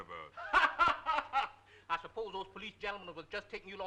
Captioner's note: laughing